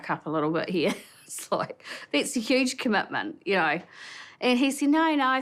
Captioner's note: chuckles